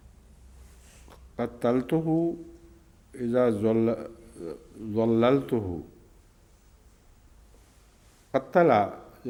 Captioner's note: Arabic